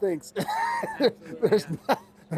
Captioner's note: laughter